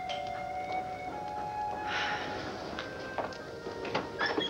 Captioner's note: doorbell rings